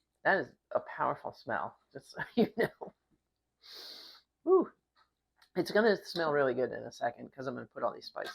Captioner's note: sniffs